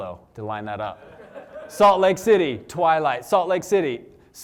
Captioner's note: laughter